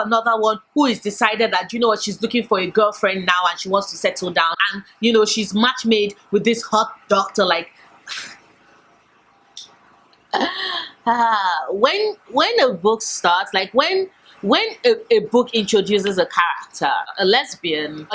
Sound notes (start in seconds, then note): 10.4 sigh